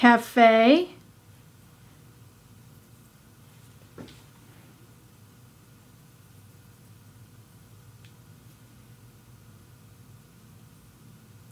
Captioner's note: silence